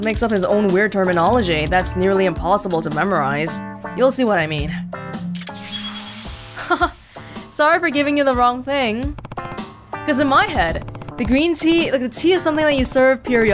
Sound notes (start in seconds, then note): 6.6 chuckles